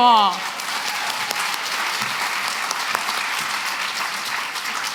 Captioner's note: applause